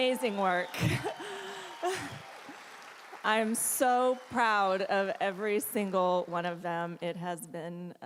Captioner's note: applause